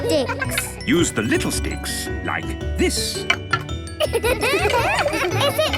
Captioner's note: laughter